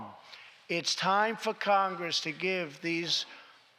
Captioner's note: none